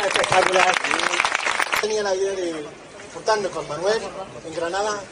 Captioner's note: applause